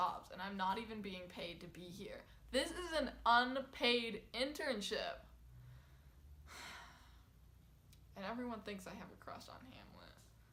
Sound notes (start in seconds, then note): 6.4 sigh